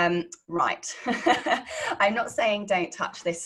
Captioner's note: laughing